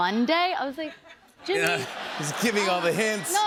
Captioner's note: laughter